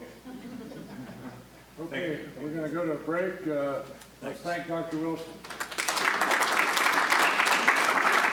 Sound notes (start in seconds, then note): 5.4 audience applauding